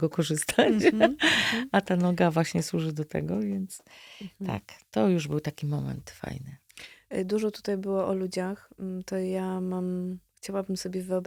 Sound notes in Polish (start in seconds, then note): 1.2 wciągnięcie powietrza